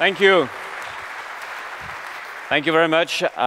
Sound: applause

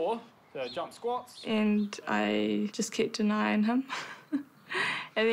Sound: chuckles

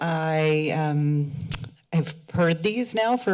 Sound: clicks tongue

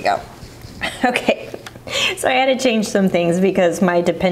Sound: laughing

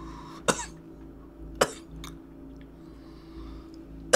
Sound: coughing

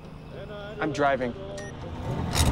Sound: cellphone beeps; gearshift clicks

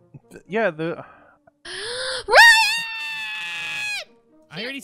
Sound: Tina screams "Ryan"

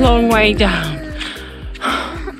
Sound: exhales

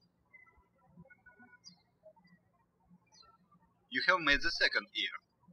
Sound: birds chirping

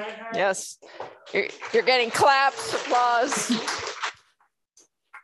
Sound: applause

